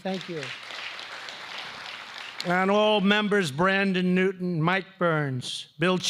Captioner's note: applause